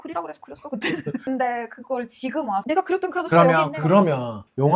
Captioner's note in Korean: 웃음